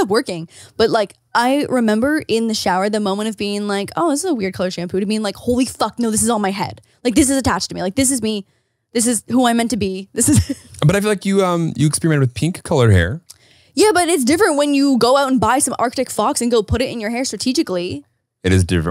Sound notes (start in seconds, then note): 10.5 laughs